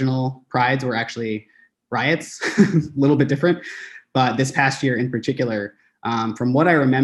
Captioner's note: laughs